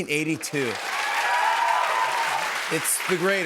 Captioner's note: cheers and applause